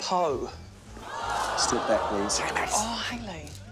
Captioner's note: audience groans; whispers